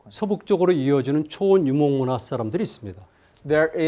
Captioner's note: speaking in Korean